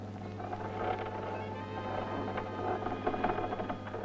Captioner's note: boards creaking